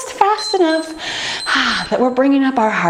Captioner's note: timer beeps